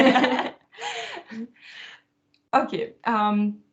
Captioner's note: laughter; laughs